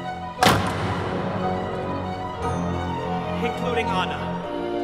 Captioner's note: door slams